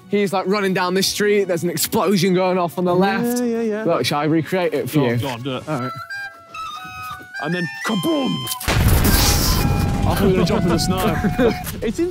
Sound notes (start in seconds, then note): 5.9 comedic music begins; 8.6 explosives booming